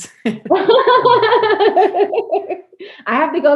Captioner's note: laughing